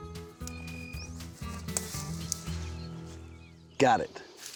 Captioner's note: snapping, cutting sound